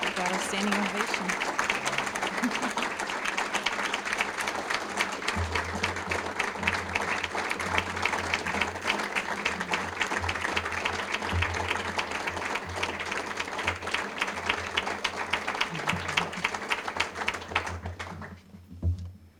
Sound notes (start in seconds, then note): 2.8 applause